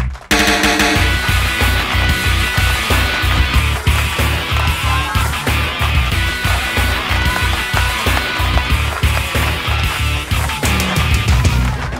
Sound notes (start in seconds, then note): 1.3 applause